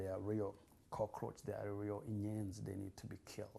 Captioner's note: non-english